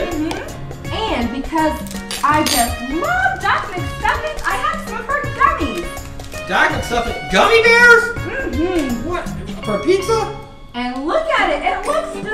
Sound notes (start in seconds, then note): 6.3 voiceover; 9.5 voiceover